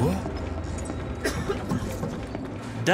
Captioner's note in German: Husten